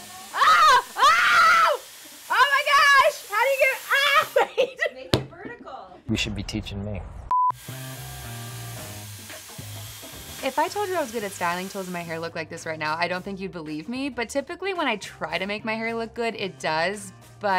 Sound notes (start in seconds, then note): 0.0 hair tool whooshing; 4.2 laughs; 7.3 TV beeps; 7.6 hair tool whooshing